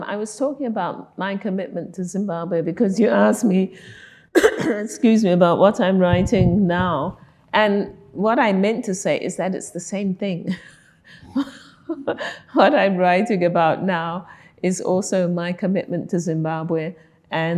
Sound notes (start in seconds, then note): 4.3 coughing; 10.7 laughing